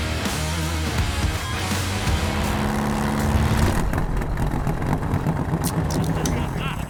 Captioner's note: engine revving